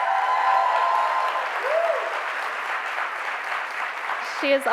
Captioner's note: cheers and applause